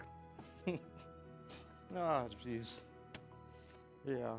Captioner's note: chuckles